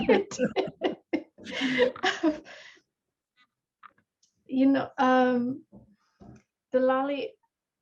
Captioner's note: laughter